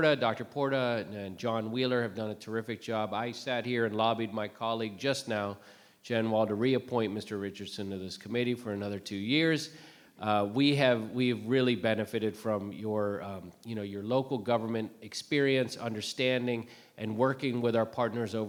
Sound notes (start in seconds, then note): none